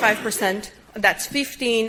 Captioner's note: audience member coughing